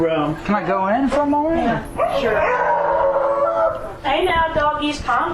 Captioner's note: loud Barking